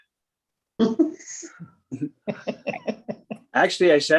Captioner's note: laughs